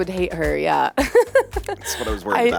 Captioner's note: laughs